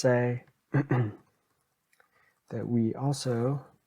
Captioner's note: clears throat